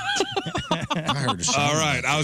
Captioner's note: laughing